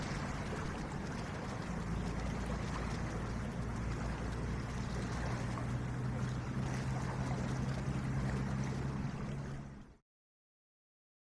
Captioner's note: water sounds